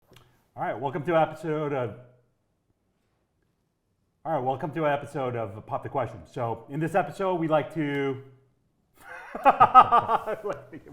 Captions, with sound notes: Hi, welcome to episode of Hi, welcome to episode of Pop the Question. So, in this episode, we like to (laughs)